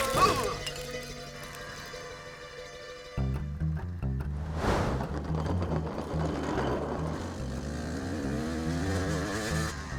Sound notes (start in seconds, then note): 3.3 dramatic music; 4.3 bike whirring